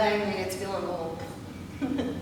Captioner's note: giggles